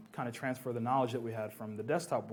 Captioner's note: none